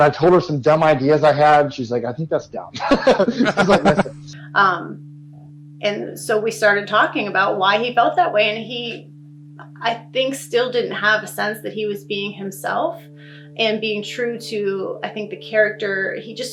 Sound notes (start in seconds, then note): 2.6 laughs